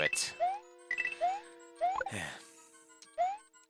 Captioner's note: breathing